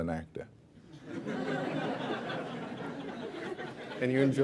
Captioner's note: laughter